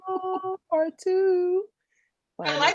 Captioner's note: laughs